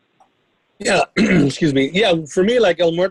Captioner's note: coughs